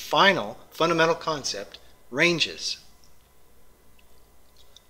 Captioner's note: pause